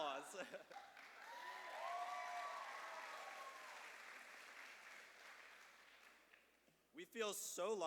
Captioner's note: cheers and applause